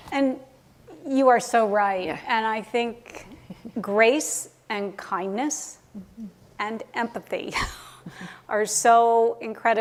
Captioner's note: chuckle